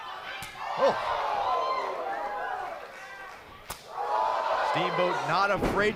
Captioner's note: crowd cheering